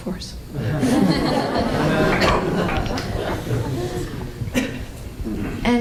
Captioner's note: laughter